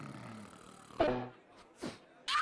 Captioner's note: sniffle